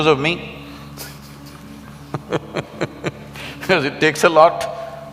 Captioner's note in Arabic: ضحك